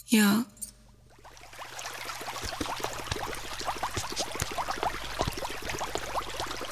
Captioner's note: Water flowing